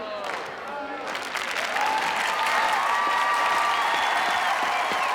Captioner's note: clapping and cheering